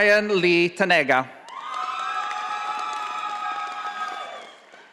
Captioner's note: audience applauding